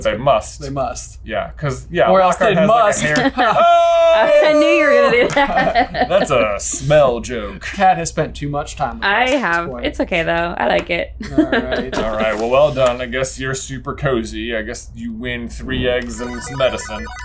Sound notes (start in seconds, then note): 3.0 everyone laughs